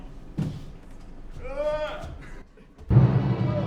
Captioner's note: strained pushing noises